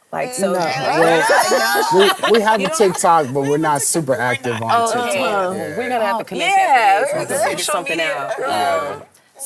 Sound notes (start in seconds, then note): 1.5 hosts laugh